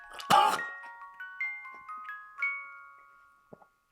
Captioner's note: Jacob coughs